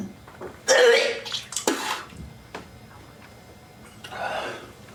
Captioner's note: he gags and vomits